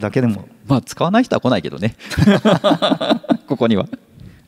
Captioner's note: laughs